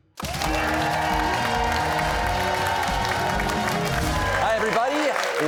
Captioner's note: cheers and applause